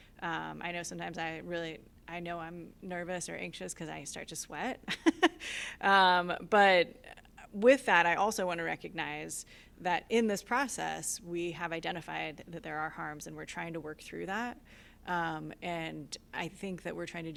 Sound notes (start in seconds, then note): 4.8 laughter